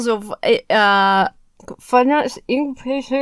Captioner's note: Emma trails off, mumbling